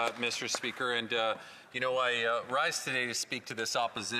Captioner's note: speaking French